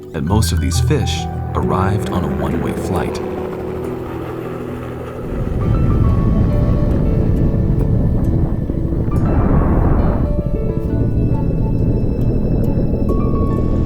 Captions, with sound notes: and most of these fish arrived on a one way flight. (helicopter whooshing) (lighthearted piano music)